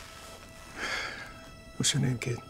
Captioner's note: sighs